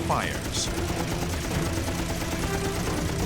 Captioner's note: gunshots